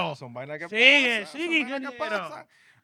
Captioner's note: speaking In Foreign Language